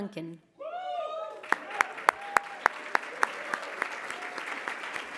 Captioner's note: applause